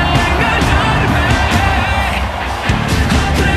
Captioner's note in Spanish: Ovación